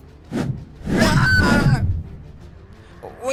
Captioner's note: woosh; Theia Screams